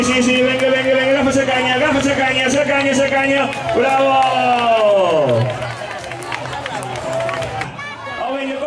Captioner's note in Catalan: Aplaudiments